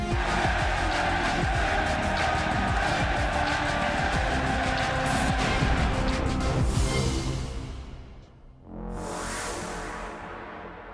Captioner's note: fans chanting